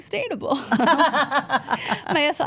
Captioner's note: all laughing